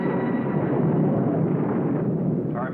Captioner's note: booming